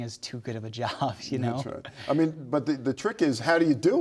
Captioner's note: laughs